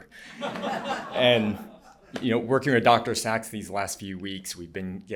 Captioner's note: laughter